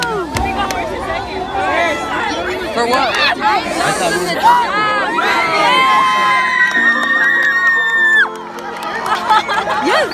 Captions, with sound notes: Jake trynna kiss Angel *More cheering*